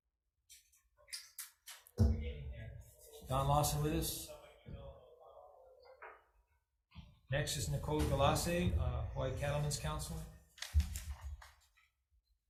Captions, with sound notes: Is Don Lawson with us? (crowd chattering) - Next is Nicole Galase, Hawaii Cattlemen's Council.